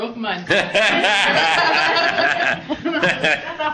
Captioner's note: laughs